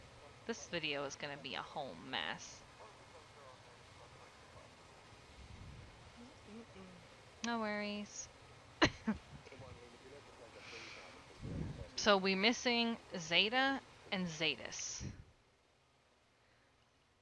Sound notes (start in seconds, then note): 5.9 semi-audible M.m.m; 8.8 coughs